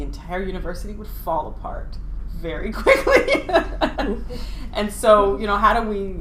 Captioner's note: laughing